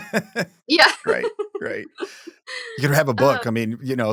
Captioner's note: chuckles